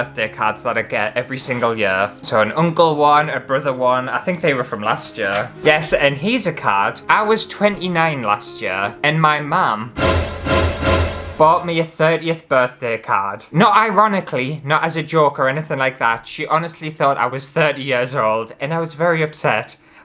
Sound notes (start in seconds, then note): 9.9 alert